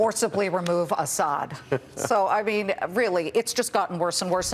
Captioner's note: chuckling